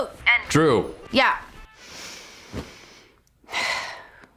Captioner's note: sighs